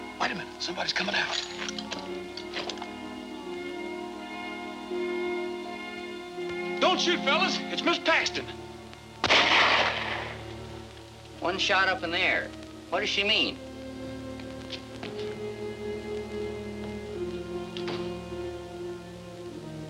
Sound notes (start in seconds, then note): 0.0 tense music; 3.1 tense music; 9.2 gun firing; 15.2 tense music